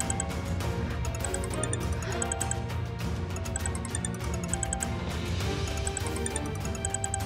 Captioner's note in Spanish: suena el celular